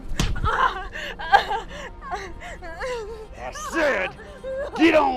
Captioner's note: person crying